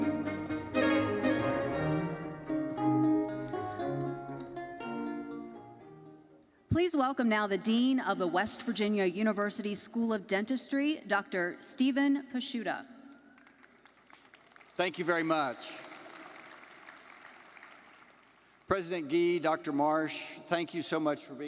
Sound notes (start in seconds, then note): 0.0 lively uplifting music continues; 13.4 audience applauding